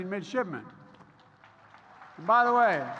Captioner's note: applause